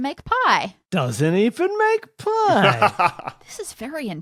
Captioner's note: laughs